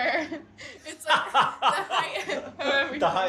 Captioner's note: laughs